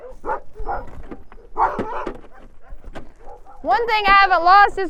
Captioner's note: dogs barking